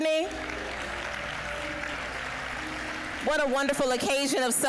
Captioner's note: applause